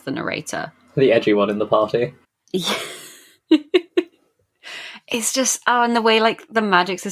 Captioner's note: laughing